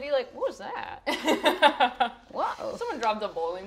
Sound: laughing

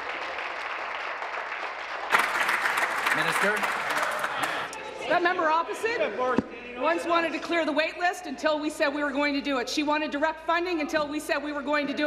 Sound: applause

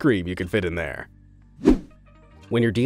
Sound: transitional wipe-screen rushing sound

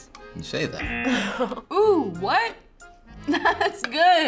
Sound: buzzer rings; laughs

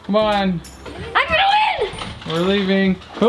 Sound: yells

